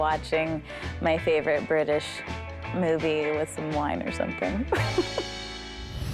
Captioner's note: chuckles